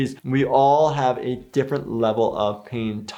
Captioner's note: none